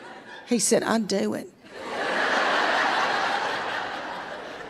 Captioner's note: crowd laughs